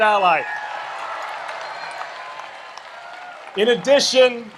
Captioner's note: audience applauds and cheers